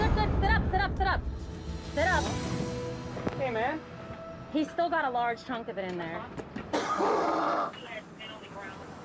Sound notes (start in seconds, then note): 6.7 man coughs